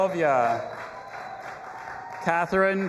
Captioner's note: audience applauding and cheering